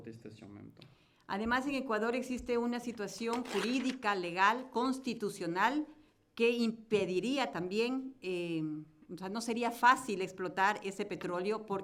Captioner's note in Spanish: Español